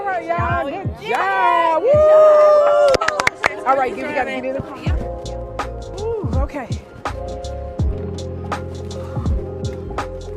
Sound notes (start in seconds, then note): 2.8 claps; 7.5 bright music